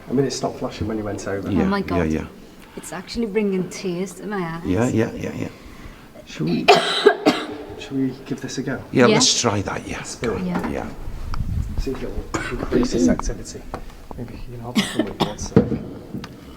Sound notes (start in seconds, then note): 12.3 coughing